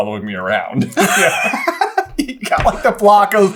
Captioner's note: giggles